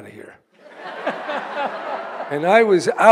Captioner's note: audience laughing